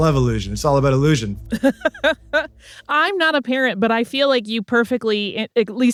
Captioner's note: laughs